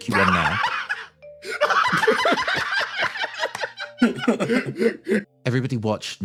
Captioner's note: cackles